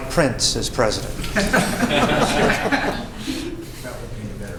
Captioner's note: laughter